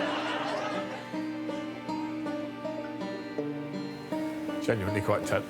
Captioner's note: audience laughing